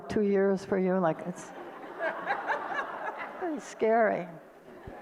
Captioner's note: audience laughter